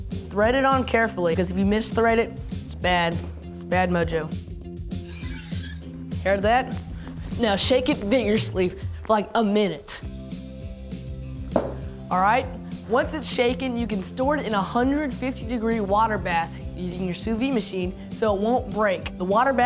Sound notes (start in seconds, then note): 5.0 canister squeaks